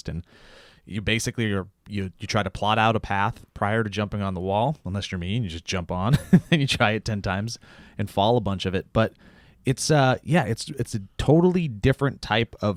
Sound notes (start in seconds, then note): 6.0 laughs